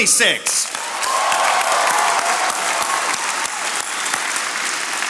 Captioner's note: attendees applauding